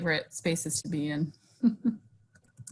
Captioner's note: chuckles